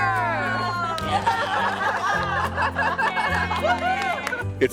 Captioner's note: group laughing